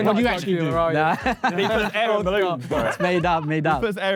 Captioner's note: laughs